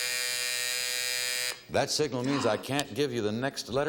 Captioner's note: timer buzzing